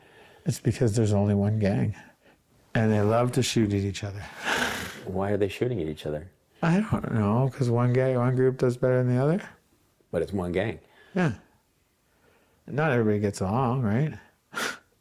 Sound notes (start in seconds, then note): 4.1 laughs; 14.2 laughs